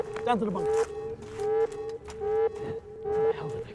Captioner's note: alarm blaring continues